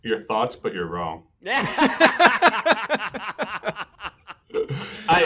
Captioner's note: laughter